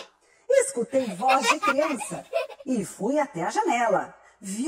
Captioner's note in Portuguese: risada de criança no fundo